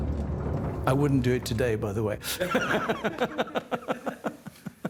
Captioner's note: laughs